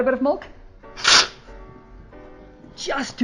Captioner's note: slurping